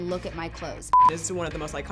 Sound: beep

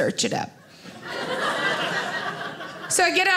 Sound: audience laughing

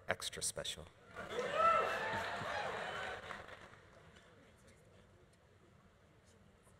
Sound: audience laughing; audience cheering

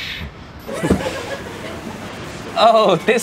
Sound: laughing

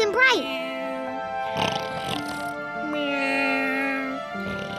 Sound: snoring

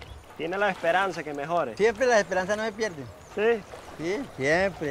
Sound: speaking in foreign language

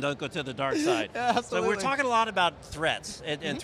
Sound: laughs

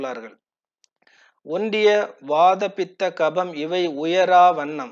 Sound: in Tamil

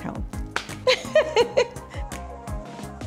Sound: laughing

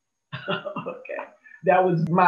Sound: chuckles

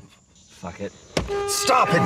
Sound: horn blaring

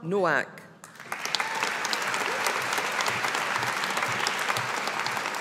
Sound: audience applauding

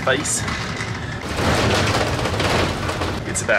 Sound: bus rattling

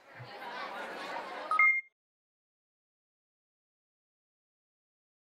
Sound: crowd chatting; electronic beeping

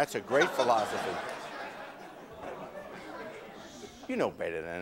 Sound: audience laughing

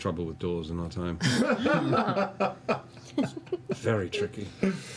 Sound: laughter

